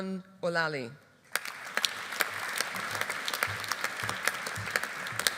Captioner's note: audience applauding